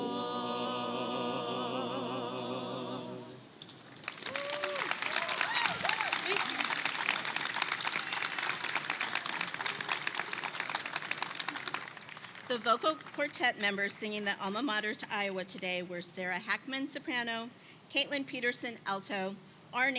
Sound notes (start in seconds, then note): 3.9 attendees clap and cheer